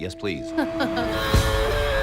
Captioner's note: laughs